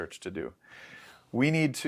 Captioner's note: inhales